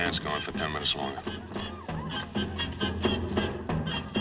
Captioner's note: laughing; conga